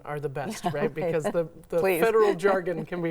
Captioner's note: chuckles